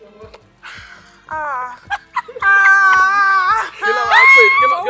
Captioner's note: laughs